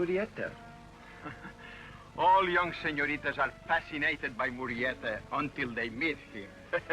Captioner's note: chuckles; laughs